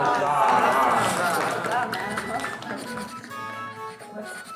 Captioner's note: applause